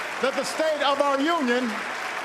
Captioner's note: applause